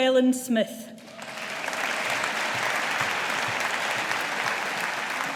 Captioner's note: audience applauding